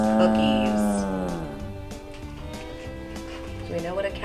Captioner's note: cow moos